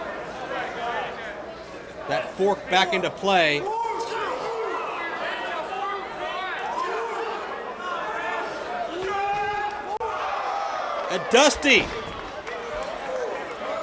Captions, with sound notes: That fork back into play. (Dusty yells) And Dusty!